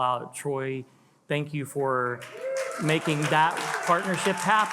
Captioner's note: attendees cheer and applaud